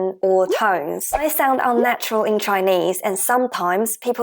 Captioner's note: Mandarin